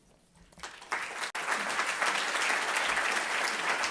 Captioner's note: applause